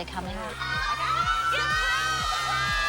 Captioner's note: excited screaming